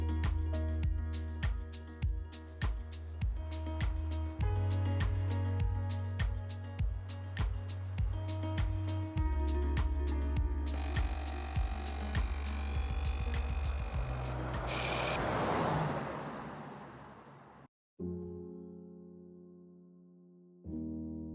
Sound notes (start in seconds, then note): 0.3 soft lively music continues; 10.7 machine whirring; 17.8 gentle piano music